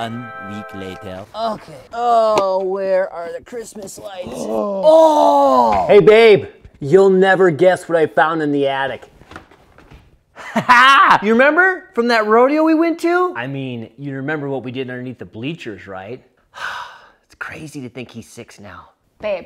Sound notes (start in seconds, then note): 4.0 gasps; 10.4 laughs